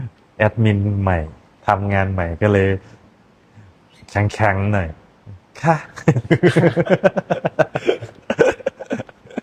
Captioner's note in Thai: เสียงหัวเราะ